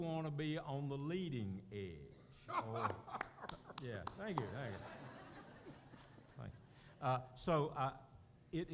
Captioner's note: laughter